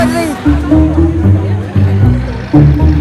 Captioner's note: crowd murmuring